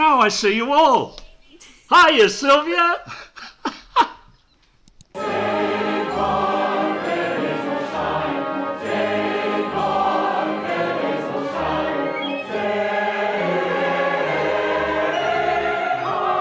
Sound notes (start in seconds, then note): 4.6 mouse click